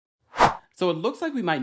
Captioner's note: air wooshing